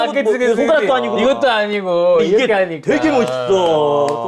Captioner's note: clapping